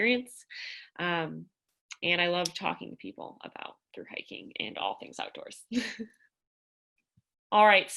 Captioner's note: laughter